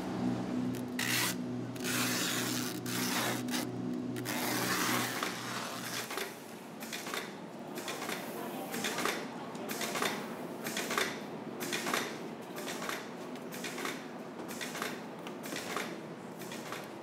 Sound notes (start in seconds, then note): 1.7 tape screeches; 7.0 machine whirs